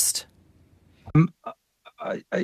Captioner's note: speaking French